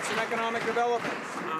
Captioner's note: some Applause